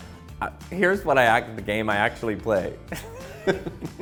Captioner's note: laughing